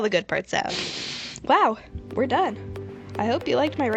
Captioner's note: deep breath